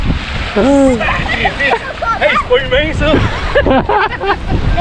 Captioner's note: laughs